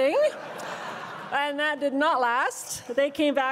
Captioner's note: crowd laughs